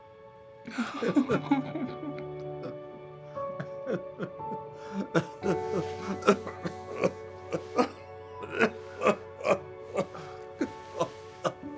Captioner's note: Jesse and Florio laugh and cough